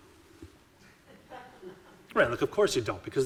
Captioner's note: audiences laughing